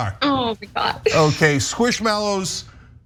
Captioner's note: laugh